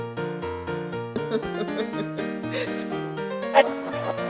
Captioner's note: laughing